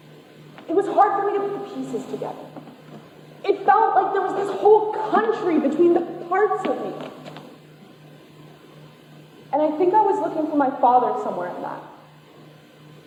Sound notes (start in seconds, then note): none